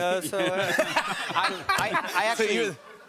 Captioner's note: laughter